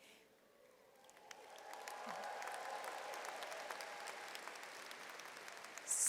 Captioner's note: audience cheers and applauds